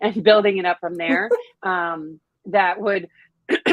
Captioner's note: chuckles